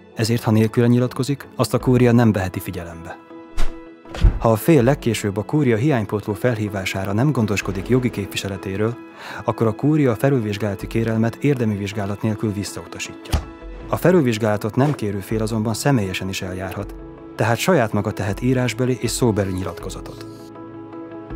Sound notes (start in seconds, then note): 3.5 swoosh; 13.3 sound of stamping